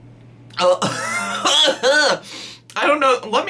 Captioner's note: coughs